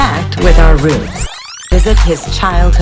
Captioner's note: recording tape rewinding sound